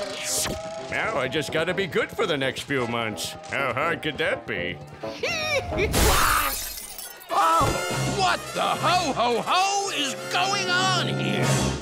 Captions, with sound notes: Now, I just gotta be good for the next few months. How hard could that be? [laughing, suddenly cutting off] Ah! What the ho-ho-ho is going on here?